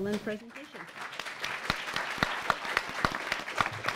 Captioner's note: applause